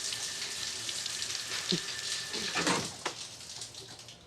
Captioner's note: chuckling